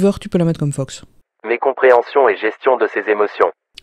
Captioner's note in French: Voix off